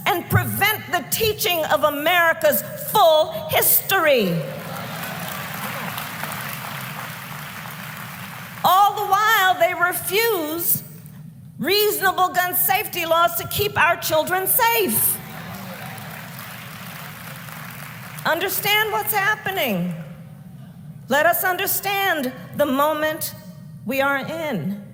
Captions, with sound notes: and prevent the teaching of America's full history. (Applause.) All the while, they refuse reasonable gun safety laws to keep our children safe. (Applause.) Understand what's happening. Let us understand the moment we are in.